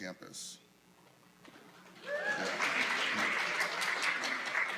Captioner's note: applause